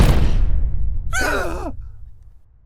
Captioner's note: Paul and Rudd gasp